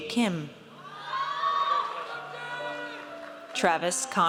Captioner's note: audience cheers